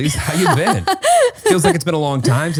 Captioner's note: laughing